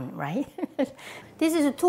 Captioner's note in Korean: 웃음소리